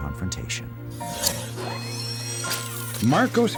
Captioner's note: mechanical sounds